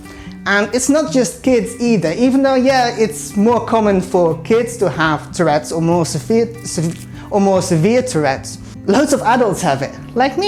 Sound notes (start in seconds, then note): 6.5 stumbles